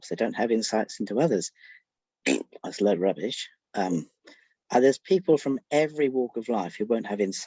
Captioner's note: blows raspberry